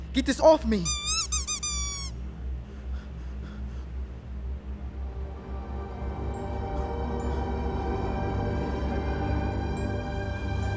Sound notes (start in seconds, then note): 0.9 squeaky laughter; 2.5 panicked breathing; 4.7 ominous music; 6.6 scared breathing